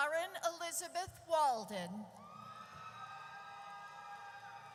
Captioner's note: audience cheers